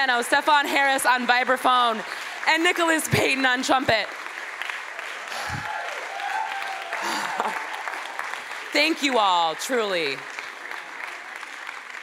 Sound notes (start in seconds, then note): 4.1 applause; 9.8 applause